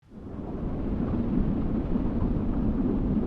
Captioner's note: wind blowing